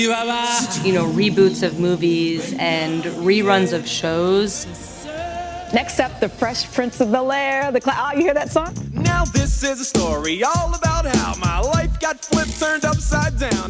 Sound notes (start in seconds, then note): 4.2 soundbite of archived recording